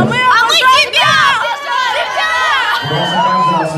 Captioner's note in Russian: голоса